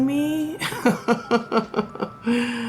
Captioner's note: laughs